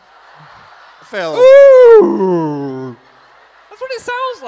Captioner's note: audience laughing; whale mating noise